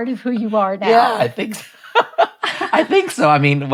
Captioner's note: chuckles